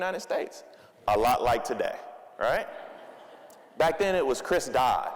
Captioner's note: audience laughing